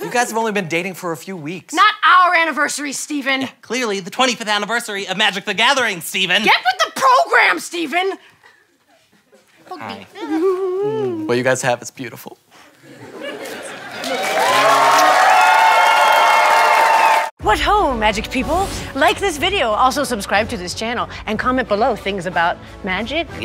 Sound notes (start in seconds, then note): 13.5 audience cheers